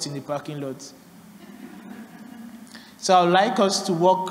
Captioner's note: laughter